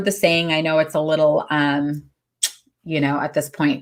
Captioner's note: smacks lips